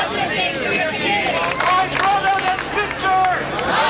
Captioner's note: voiceover